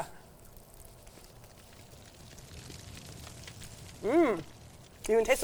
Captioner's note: fire crackling